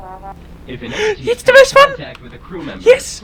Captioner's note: gasp